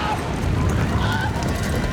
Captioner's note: screams